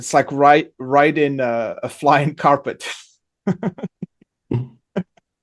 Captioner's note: laughs